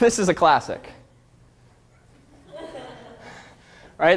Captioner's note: audience laughter